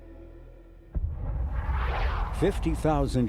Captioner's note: asteroid whooshing